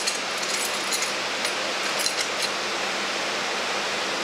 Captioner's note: metallic clatter